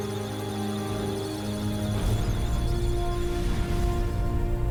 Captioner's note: electrical sounds of data